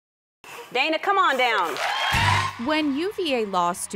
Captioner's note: crowd cheering